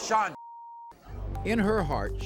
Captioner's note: beep